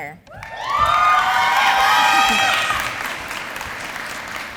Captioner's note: applause